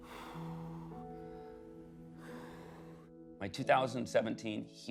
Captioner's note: breathing deeply